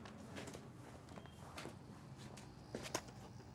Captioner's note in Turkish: teypten gelen ses